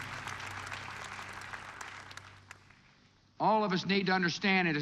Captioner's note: applause slows and ends